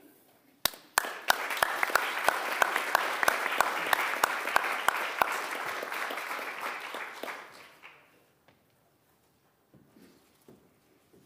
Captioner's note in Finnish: aplodit